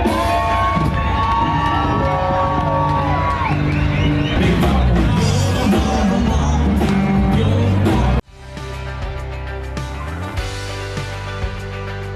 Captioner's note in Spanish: Aplausos